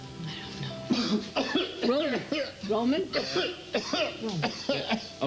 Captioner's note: coughing